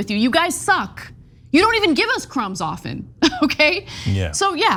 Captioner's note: laugh